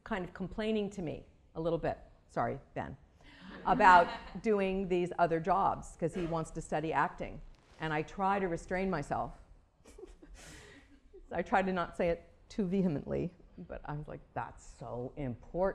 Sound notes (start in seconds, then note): 7.2 laughter